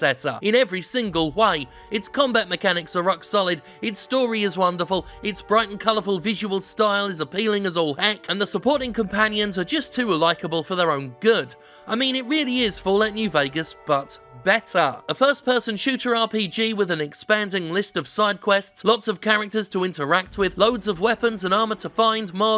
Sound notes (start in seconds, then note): none